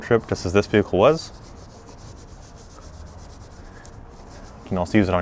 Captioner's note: brush scrapes